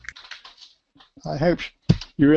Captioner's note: pause